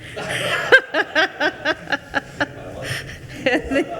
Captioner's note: attendees laughing